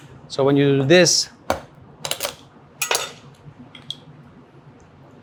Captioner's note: shell cracks